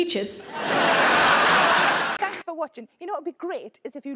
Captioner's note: audience laughing